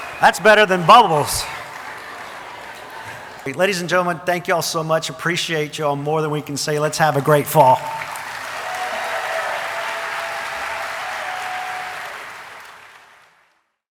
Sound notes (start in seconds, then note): 0.0 audience applauding and cheering; 7.6 audience applauding and cheering